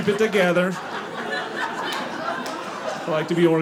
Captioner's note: audience laughing